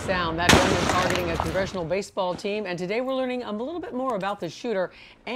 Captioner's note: gunshots